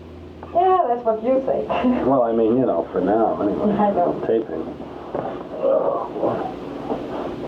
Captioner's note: laughs